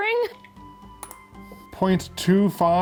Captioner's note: ice clinking